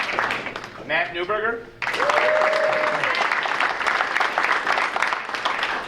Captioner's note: audience cheering